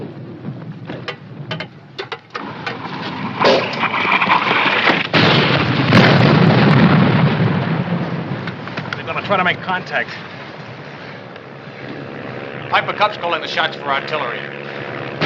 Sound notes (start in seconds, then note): 2.3 artillery whizzing; 10.1 airplane approaching; 15.0 artillery exploding